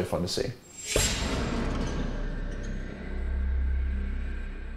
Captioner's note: metallic rumble